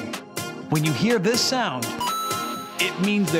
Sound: chime

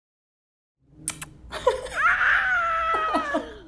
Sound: Lego smooch. Excited first kiss giggles

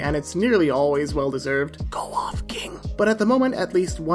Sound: whispers

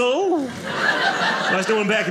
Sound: audience laughing

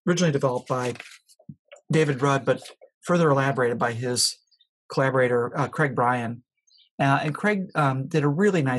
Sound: shuffling papers

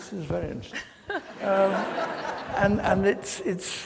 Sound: audience laughs

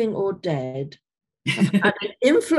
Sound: chuckling

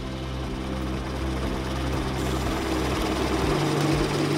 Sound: power machine buzzing

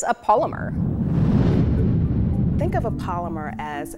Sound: rocket whooshing

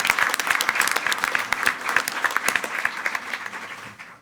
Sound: everyone applauding

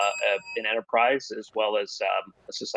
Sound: bell dings

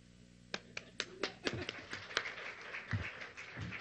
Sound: applause

